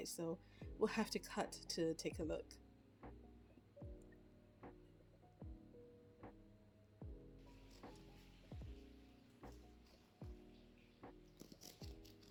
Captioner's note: gasp